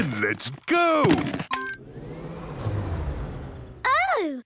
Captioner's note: car chimes; whirring, whirring stops